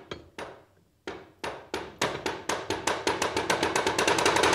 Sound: stick clattering

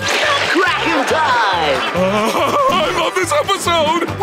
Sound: giggling

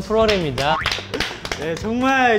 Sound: clapping for themselves

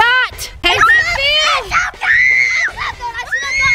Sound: shrieking

